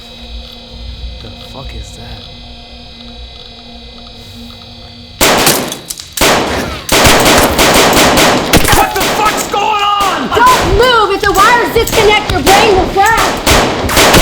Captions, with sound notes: The fuck is that? [guns blasting] [bullets pinging] What the fuck's goin' on?! Don't move. If the wires disconnect, your brain will fry.